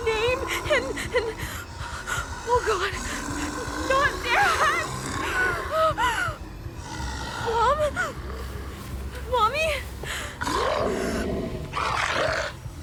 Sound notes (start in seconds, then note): 4.7 gasping; 10.4 growling